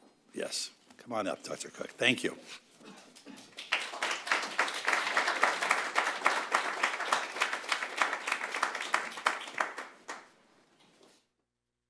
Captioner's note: applause